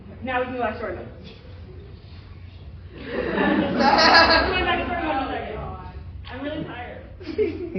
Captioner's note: laughter